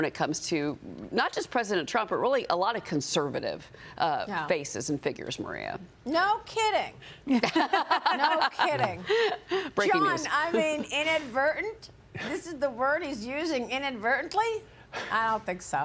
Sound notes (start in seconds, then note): 10.5 laughter